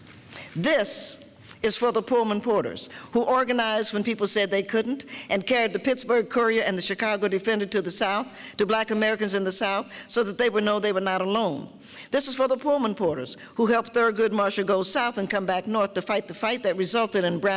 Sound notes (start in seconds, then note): none